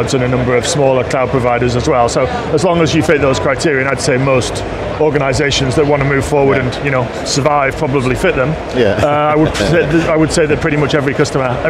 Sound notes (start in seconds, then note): 8.8 laughs